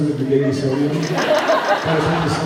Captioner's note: laughs